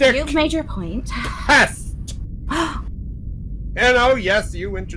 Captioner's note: gasp